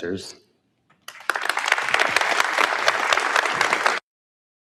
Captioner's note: audience applauds